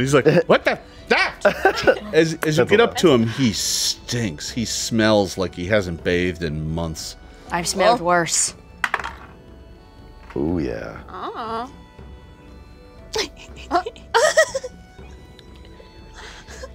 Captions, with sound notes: He's like, what the? As you get up to him, he stinks. He smells like he hasn't bathed in months. - I've smelled worse. (dice rattles) - Ooh yeah. - Ah. (women giggle)